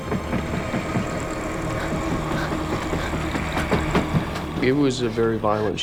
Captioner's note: heavy breathing